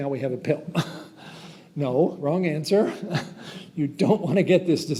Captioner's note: chuckles